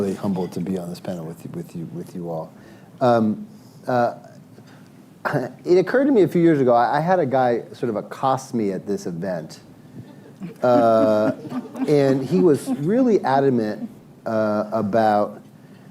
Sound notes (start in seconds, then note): 10.2 laughter